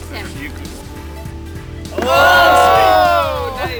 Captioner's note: crowd